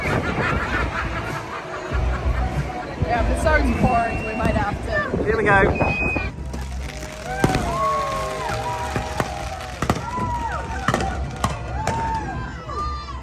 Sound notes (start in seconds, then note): 0.0 guests laughing; 6.6 guests whooping; 7.4 fireworks crackling